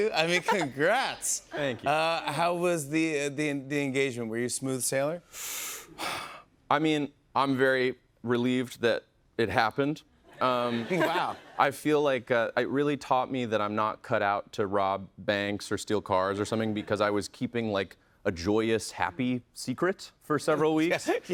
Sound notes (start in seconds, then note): 5.3 inhales sharply